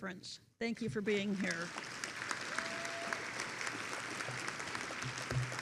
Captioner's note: attendees applauding